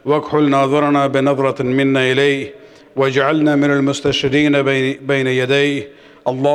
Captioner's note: arabic